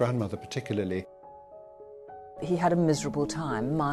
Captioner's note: voiceover